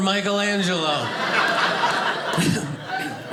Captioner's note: audience laughing